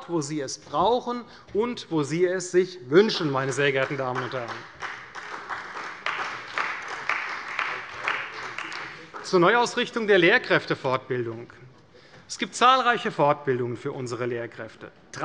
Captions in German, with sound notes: wo sie es brauchen und wo sie es sich wünschen. [Beifall bei der CDU] Zur Neuausrichtung der Lehrkräftefortbildung. Es gibt zahlreiche Fortbildungen für unsere Lehrkräfte.